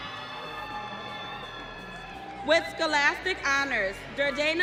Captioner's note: audience cheering